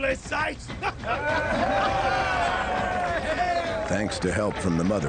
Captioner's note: crowd cheers